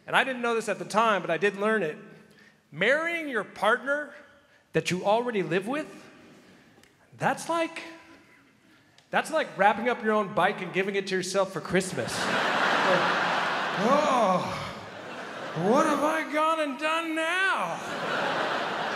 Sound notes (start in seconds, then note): 12.0 crowd laughs